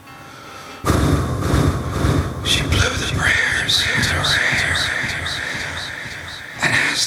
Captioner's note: echoing